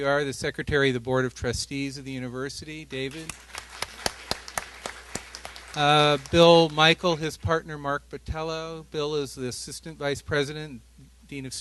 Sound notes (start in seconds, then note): 3.1 applause